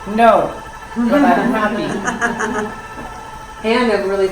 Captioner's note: woman's Voice